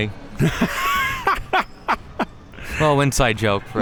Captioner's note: laughing